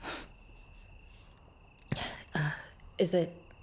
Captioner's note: Rachel scoffs